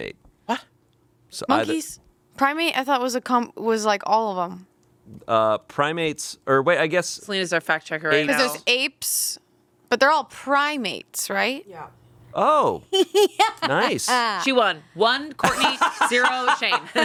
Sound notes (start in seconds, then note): 12.9 laughing